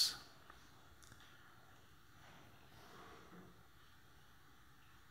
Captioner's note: silence